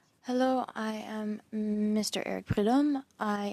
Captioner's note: speaking French